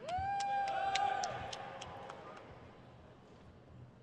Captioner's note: crowd cheers